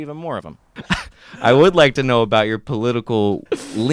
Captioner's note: scoffs